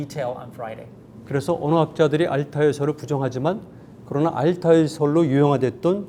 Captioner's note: speaking in Korean